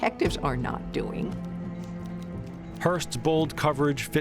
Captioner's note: typewriter clacking